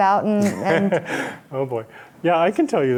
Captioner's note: laughing